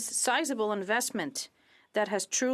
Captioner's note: speaking French